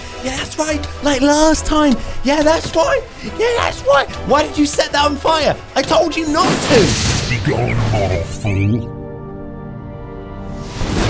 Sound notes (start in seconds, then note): 6.3 lighting whizzing; 8.9 dramatic instrumental music; 10.6 lightning zapping